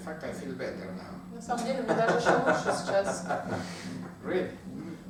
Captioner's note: hahaha